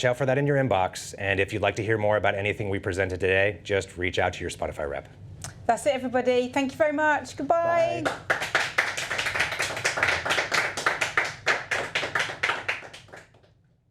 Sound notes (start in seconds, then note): 7.9 audience applauding